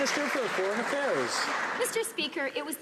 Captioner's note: some Applause